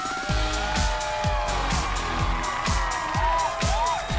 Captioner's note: cheering